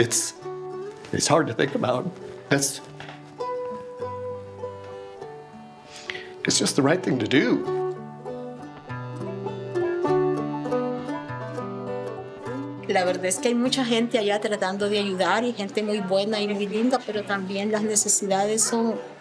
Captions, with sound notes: It's hard to think about. It's just the right thing to do. (calm music) (woman speaking in Spanish)